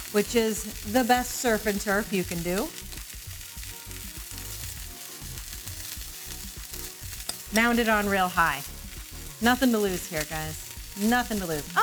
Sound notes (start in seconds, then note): 2.8 steak sizzling; 2.8 upbeat music